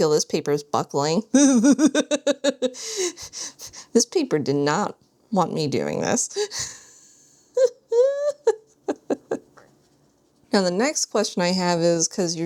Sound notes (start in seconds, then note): 1.4 laughs; 7.5 laughs